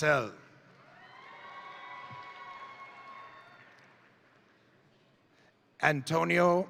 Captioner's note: crowd cheering; crowd applauding